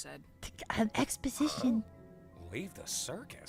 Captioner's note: excited noises